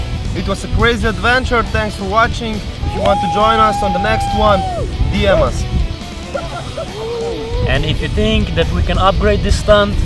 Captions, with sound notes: It was a crazy adventure, thanks for watching! If you want to join us on the next one, DM us. *laughing* And if you think that we can upgrade this stunt,